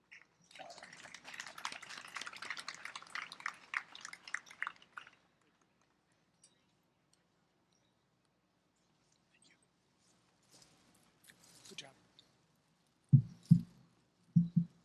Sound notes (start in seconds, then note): 0.4 applause